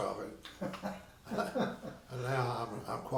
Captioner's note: laughing